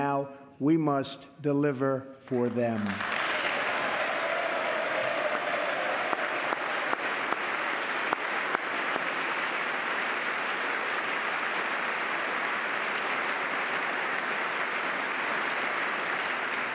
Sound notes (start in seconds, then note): 5.1 applause